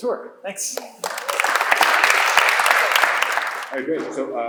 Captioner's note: applause